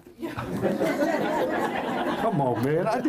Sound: laughter

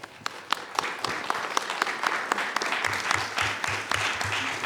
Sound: attendees applauding

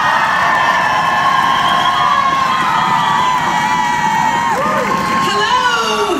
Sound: applause

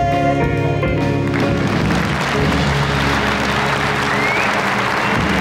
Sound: audience applauding

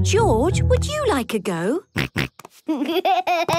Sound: snorts, giggles

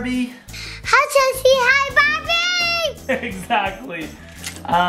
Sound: laughing loudly

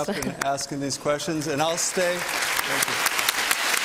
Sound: applause

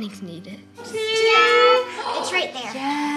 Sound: exclaims

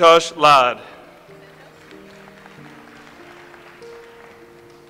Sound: audience applauds

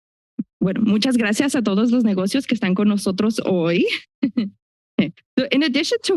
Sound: foreign language

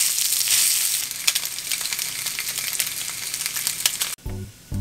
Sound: sizzle

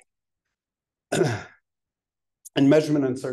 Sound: clearing throat

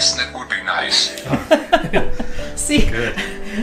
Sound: giggling

